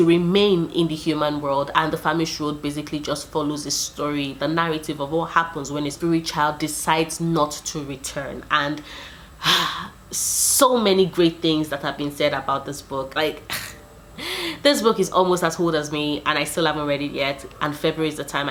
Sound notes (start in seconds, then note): 8.7 sigh